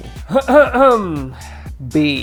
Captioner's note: coughing